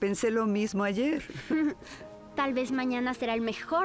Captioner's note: laughs